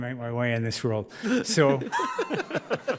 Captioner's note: judges laugh